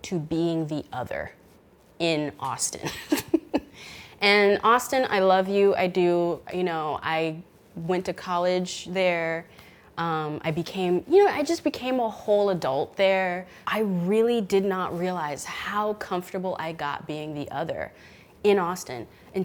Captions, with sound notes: to being the other in Austin. (chuckles) And Austin, I love you. I do. You know, I went to college there. I just became a whole adult there. I really did not realize how comfortable I got being the other in Austin